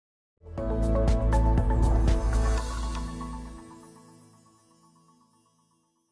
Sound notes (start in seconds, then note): 0.4 bright music; 2.1 text whooshing